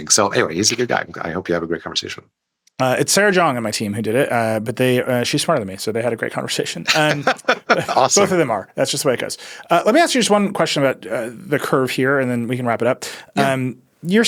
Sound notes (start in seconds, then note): 6.8 laughs